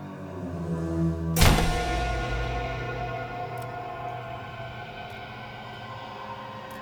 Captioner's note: brooding music; dramatic music; door slamming